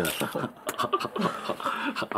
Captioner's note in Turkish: Gülüşmeler